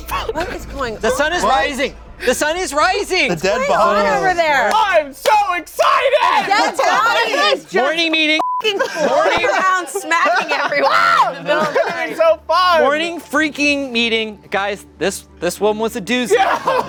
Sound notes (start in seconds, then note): 8.1 beep; 10.8 screaming